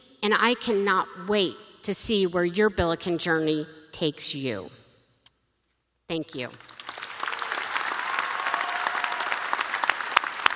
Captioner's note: applause